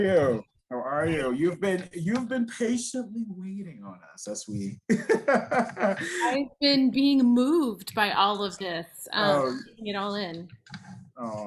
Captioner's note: laughing